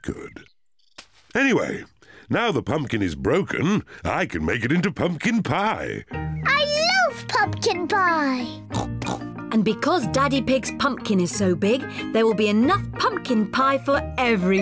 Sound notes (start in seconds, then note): 8.7 snorts